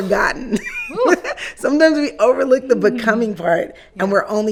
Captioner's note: laughing